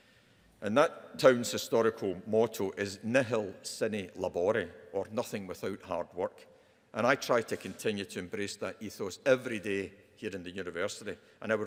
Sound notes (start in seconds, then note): 3.0 speaks in foreign language